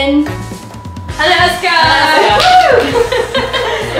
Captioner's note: cheers